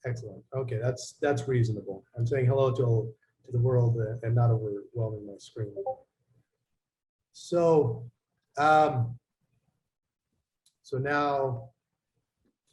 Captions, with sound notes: Excellent. Okay, that's reasonable. I'm saying hello to the world and not overwhelming my screen. (electronic beeping) So now, git diff,